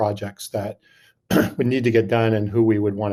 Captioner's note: clears throat